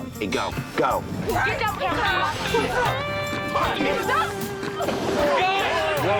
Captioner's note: arguing